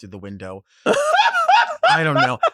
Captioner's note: Sapphira laughs